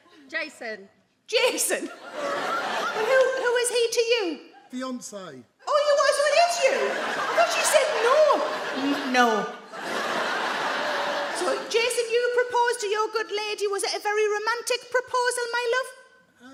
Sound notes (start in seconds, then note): 10.0 audience laugh